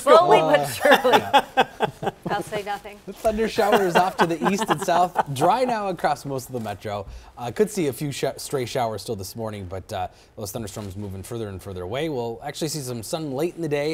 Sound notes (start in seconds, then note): 3.5 laughter